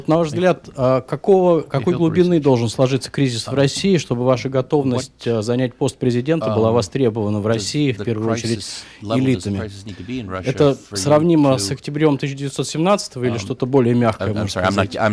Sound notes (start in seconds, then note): 3.1 through translator; 9.9 through translator